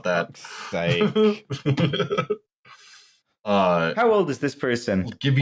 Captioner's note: laughs